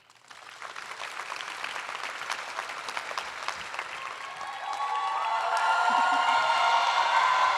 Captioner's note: applause; cheering